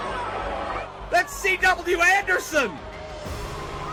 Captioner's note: crowd cheering